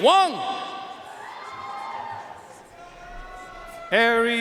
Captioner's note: audience cheering and applauding